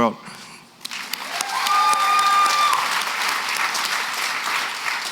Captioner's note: applause